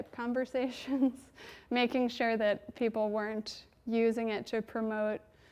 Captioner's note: chuckles